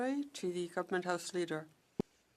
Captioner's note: speaking French